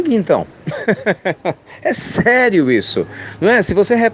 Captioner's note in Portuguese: Risos